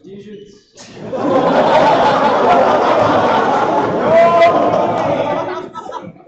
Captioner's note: laughter